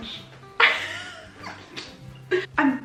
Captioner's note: laughs